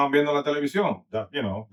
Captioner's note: speaking In Foreign Language